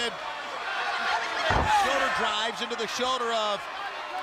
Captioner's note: crowd cheering